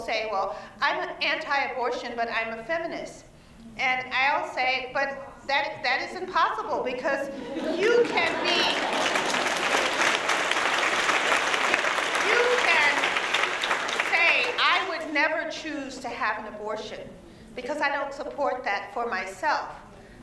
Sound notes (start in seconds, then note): 11.3 applause